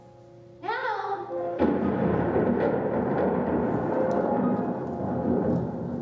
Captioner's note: thunderclap